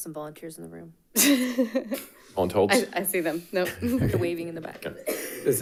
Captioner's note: laughs